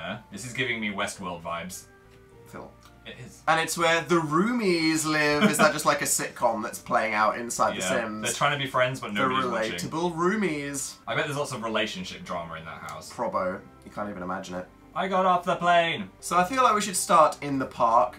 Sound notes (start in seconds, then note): 5.3 laughs